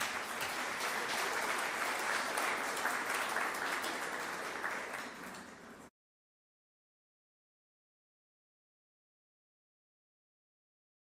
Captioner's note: applause